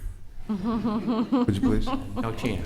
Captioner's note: laughter